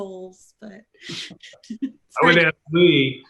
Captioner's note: laughing